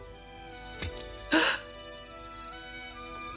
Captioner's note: gasps